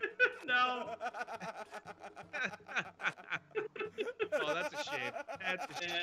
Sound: laugh

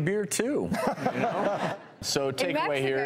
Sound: laughter

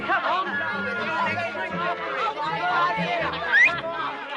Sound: boys chattering; whistles

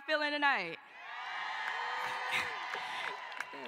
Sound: cheering

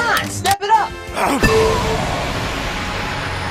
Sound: pinball bumper sound effect from the Sonic games

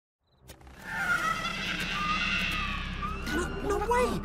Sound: evil cackling

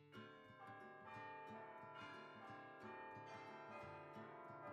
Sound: bell Tower Ringing

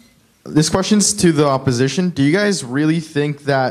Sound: voiceover

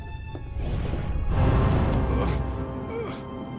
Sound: grunting

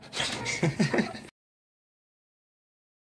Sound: laughs

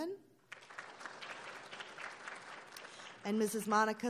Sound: applauding

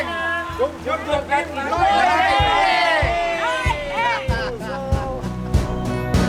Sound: in local dialect

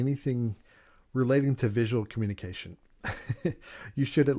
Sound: chuckles

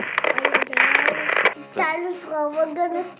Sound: static sound

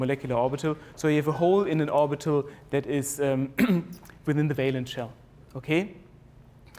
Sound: cough

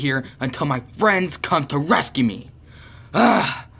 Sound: sighs in frustration

